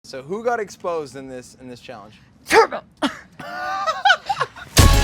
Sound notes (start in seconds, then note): 3.0 fake sneezes; 3.0 laughs